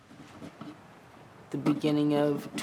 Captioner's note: chisel scratches